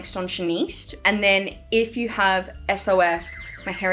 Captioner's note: sirens wailing